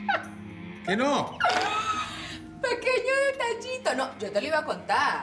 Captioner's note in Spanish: risas